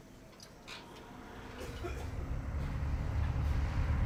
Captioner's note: man coughs